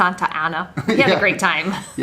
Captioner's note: laughs